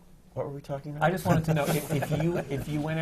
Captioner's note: laughter